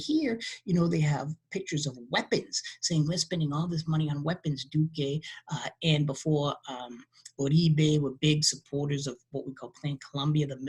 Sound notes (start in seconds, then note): 4.3 speaking in a foreign language